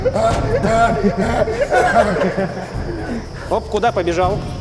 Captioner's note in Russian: смех и крики